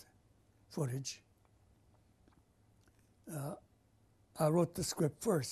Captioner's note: pauses for 3 seconds